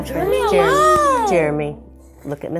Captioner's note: yelling